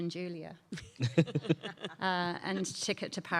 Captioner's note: panelist laughing